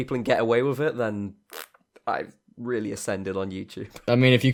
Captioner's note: parp